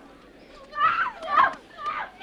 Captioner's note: resident screams